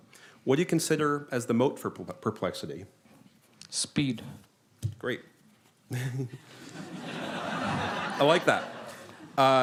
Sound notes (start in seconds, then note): 6.0 laughter